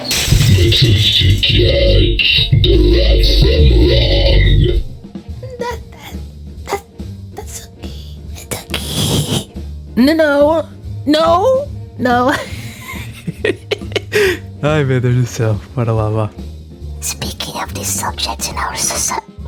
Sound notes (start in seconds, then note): 12.3 Plushtrap laughs